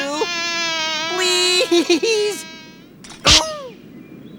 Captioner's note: fly buzzing